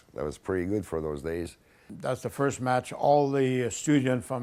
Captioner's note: none